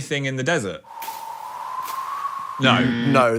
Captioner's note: wind rustling